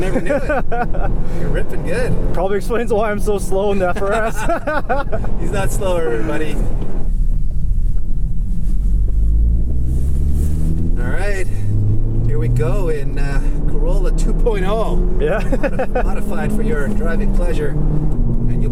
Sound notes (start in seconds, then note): 0.0 laughter; 3.9 laughter; 9.6 car revs; 15.3 laughs